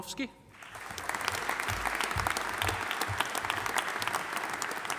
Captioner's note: audience applauding